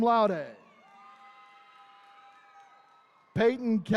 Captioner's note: attendees cheering